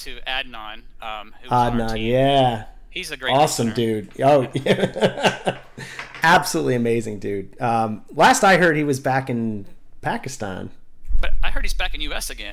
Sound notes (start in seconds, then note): 4.1 laughter